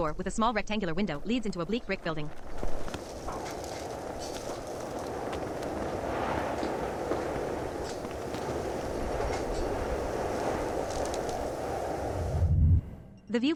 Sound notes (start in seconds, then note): 3.7 wind howls